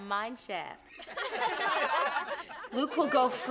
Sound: laughing

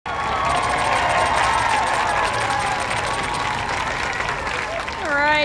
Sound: audience applause

